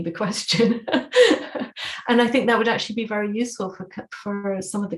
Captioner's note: laughter